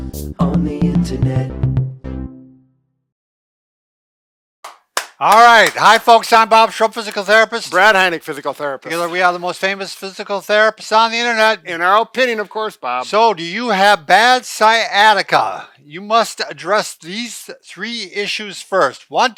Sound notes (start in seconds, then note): 4.6 clapping